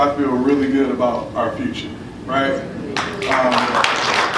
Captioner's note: applause